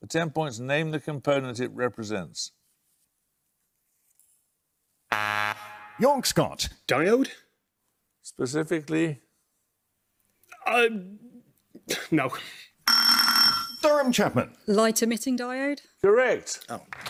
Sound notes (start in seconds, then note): 5.1 buzzer; 12.8 buzzer